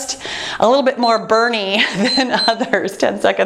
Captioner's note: timer beeps